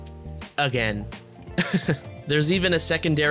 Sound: laughs

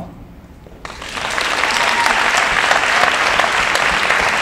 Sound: applauding

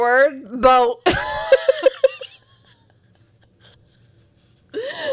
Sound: panel laughing

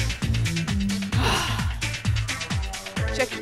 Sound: exhales

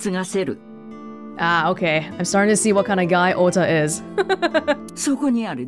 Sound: chuckles

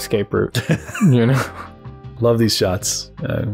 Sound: laughter

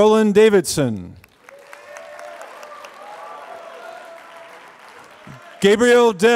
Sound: applause

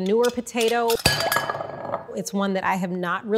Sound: bowl clanging

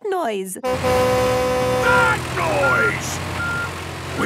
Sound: tractor noise; screaming

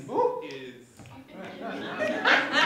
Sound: laughter

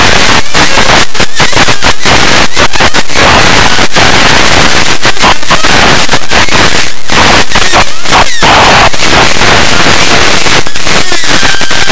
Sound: earrape

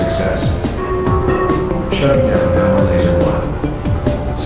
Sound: announcement Chime

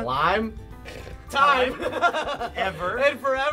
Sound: laughing

